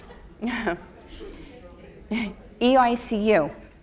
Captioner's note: audience laughs; speaking faintly